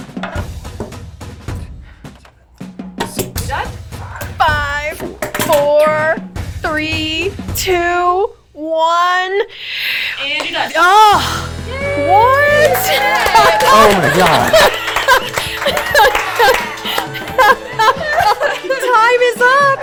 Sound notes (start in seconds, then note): 12.9 clapping; 13.4 laughing